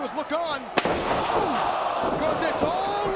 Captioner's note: chair smacks